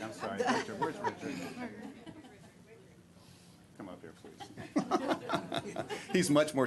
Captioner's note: laughter